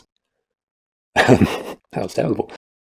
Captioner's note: laughter